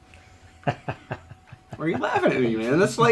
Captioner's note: Shane laughing